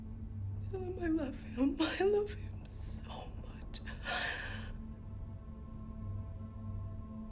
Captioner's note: sobs